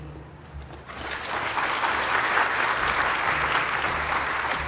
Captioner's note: audience applauding